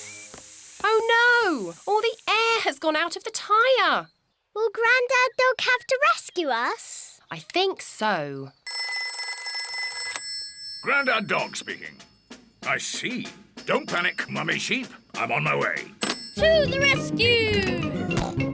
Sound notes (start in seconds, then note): 9.0 rings